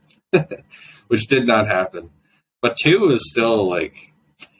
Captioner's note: laughs